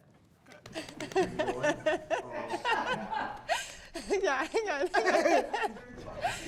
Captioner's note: hands patting; laughter